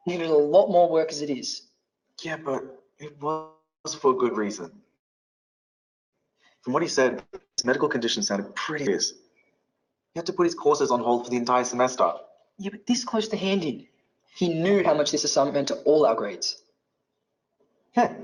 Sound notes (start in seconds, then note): 9.3 audio distorts